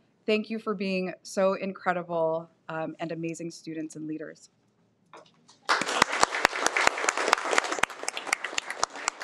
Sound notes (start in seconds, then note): 5.6 applauds